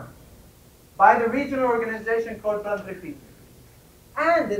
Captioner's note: spanish